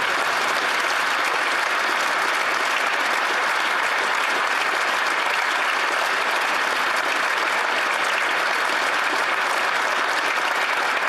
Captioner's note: applause